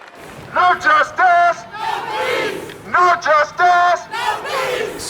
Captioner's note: chanting